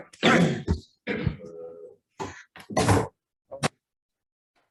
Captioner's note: indistinct conversation